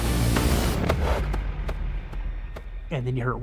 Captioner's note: footsteps running